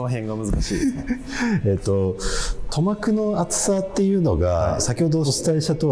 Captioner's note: laughing